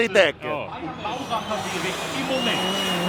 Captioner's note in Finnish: taustahälinää